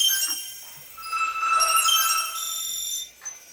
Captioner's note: beeping